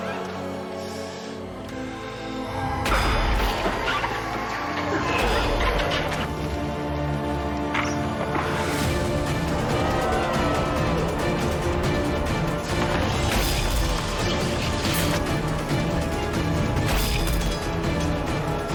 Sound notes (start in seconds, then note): 2.6 revenants screeching; 2.9 weapons clanging; 9.2 dramatic suspenseful music; 13.4 weapons clanging